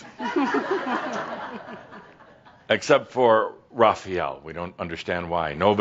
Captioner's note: laughter